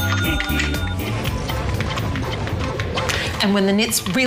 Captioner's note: video game sound effects